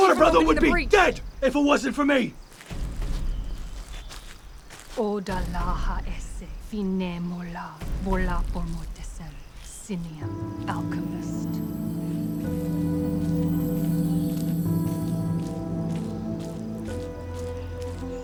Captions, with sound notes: - Your brother would be dead if it wasn't for me! (speaking foreign language) (tense music)